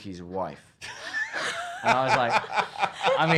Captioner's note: laughing